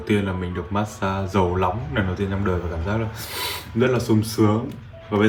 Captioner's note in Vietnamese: khịt mũi